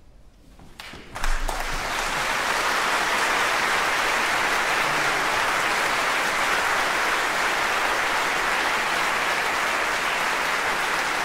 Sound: applause

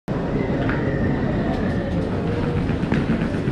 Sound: crowd chattering

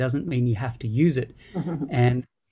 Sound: laughs

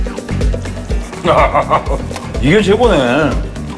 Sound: laughing

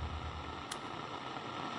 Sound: click

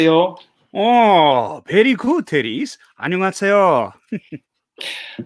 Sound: speaks in foreign language; speaks in foreign language; Appa laughing

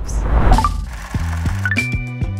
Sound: upbeat music; mechanical trilling

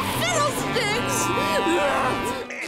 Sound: honking

